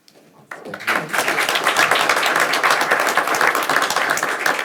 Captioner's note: audience applauds